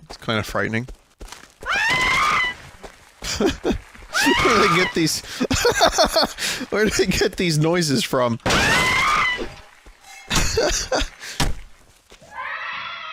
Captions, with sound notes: That's kinda frightening. (Woman screams) (Laughs) Where do they get these... (Laughs) Where do they get these noises from? (Laughs)